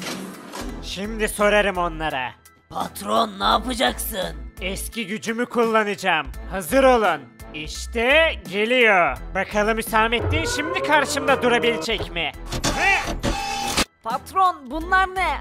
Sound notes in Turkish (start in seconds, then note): none